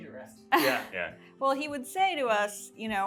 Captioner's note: group chatter